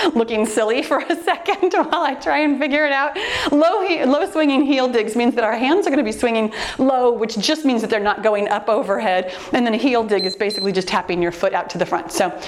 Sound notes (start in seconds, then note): 10.1 timer beeps